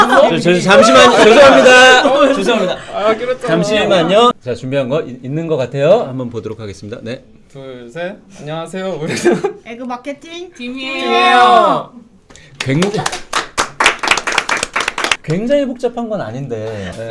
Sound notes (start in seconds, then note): 12.6 embarrassed applause